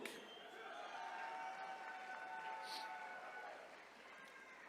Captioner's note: attendees cheering